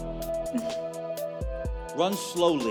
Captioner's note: laughs